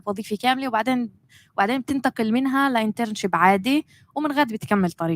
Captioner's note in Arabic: لغة أجنبية